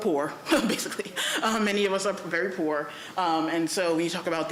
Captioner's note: laughs